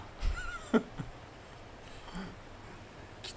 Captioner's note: laughter